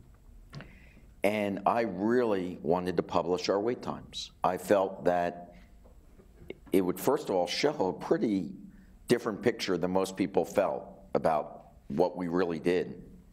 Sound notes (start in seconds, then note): none